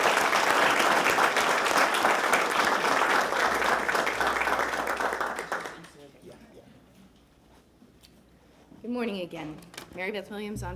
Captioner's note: applause